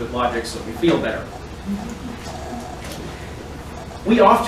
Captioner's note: audience softly chuckles